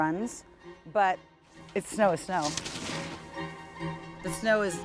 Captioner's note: snowboard clatters